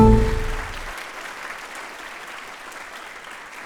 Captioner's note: applause